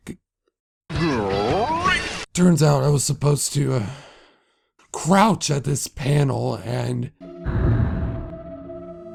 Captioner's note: sigh